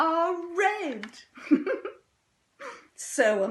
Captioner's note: laughing softly